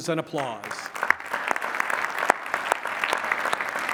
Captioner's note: applause